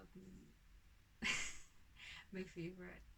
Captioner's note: laughs